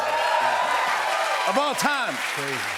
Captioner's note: cheers and applause